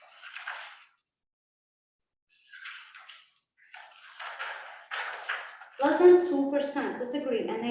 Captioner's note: papers shuffling